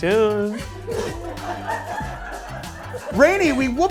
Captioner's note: group laughs